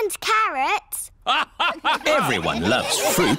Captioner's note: all laugh